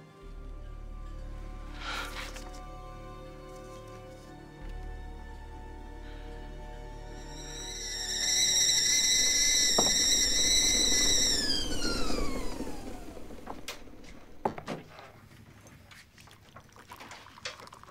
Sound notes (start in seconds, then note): 7.9 whistling